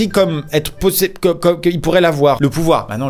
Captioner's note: sputters